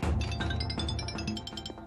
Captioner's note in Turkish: Telefon sesi